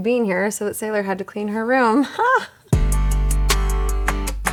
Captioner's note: chuckles